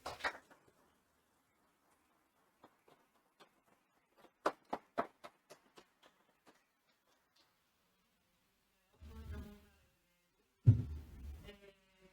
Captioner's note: applause, and question from an audience member